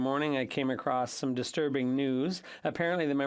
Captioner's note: speaking French